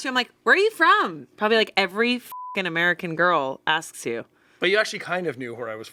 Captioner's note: beep